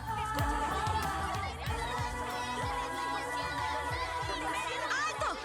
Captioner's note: arguing continues